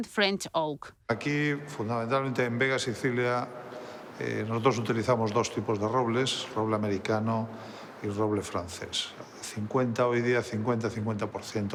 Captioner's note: speaking Spanish